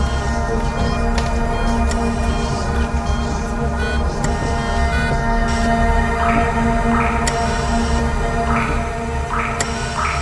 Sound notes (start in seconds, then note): 6.4 drops plopping